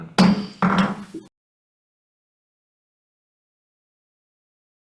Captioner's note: gavel clattering